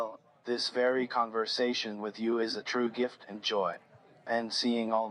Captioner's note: none